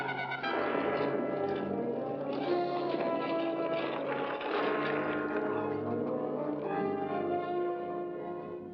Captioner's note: dramatic music; carriage rattling; dramatic music